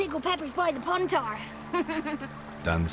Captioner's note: chuckles